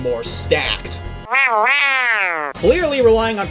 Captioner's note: Happy Birdo noises